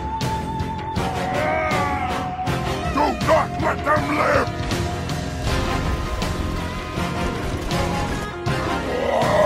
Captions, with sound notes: "AAAAUUUGGH "DO NOT LET THEM LIVE!" [Explosion] [Gunshots] "AAAAUUGGGGH"